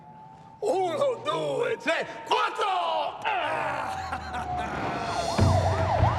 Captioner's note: sirens wail; shouts in foreign language; sirens wail and tires screech